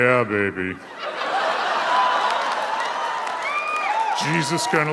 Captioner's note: audience cheers